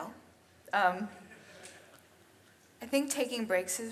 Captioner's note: audience chuckles